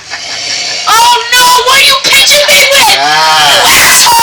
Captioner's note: laughing